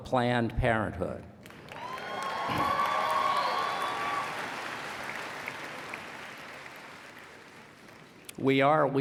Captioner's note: applause and Cheering